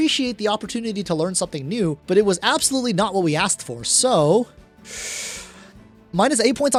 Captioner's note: inhales